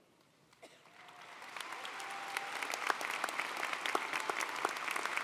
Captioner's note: audience applauding